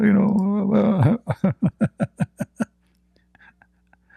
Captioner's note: Ketawa